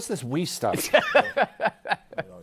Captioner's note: laughs